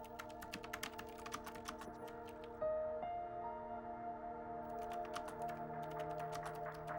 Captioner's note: typing